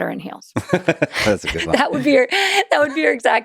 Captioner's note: laughs